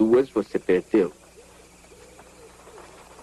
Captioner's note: horses approach